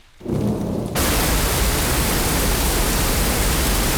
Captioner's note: thunder rumbling